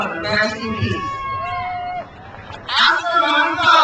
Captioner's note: crowd cheers